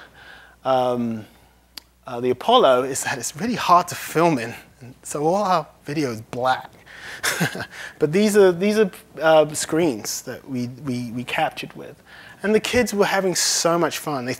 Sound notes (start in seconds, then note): 7.2 laughs